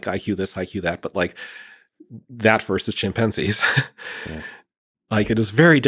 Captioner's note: chuckles